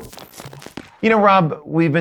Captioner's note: static hissing